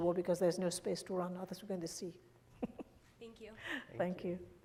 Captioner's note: laughs